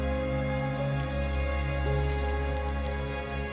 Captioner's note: rain pattering